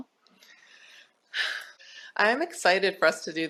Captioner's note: sighs